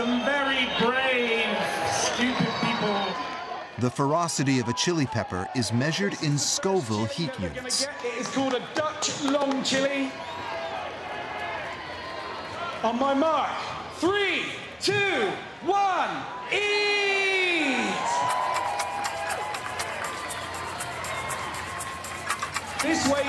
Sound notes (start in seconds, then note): 10.9 crowd cheering; 18.2 upbeat music; 18.6 crowd cheering